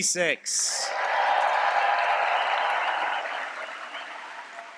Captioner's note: applause and cheering